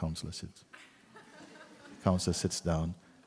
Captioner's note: laughter